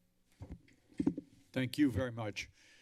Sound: mic thump

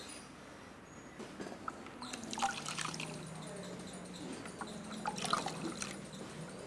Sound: trickling water from a sponge

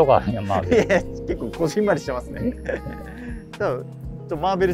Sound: laughing

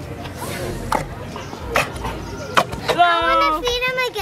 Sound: laughs; eating sounds

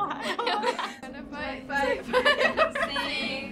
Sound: laughter

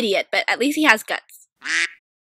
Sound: quack

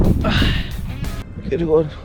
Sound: sigh

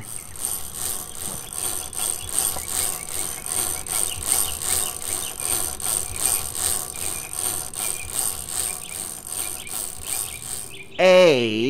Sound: chain cranking

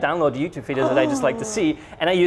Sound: gasp

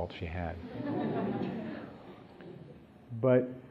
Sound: laughter

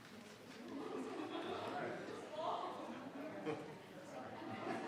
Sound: group laughing

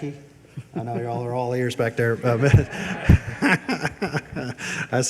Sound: laughs

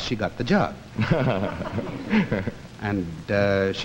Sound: laughing softly

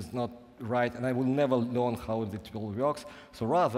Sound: none

